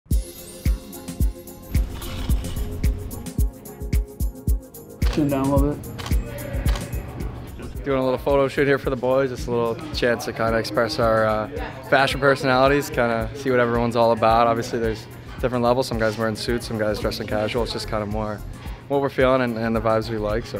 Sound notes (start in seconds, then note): 0.1 upbeat music; 6.6 camera clicking